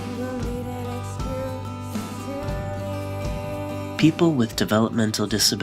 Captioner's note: voiceover